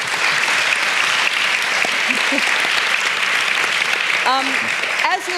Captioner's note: applause